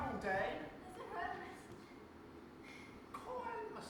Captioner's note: out of breath, barely audible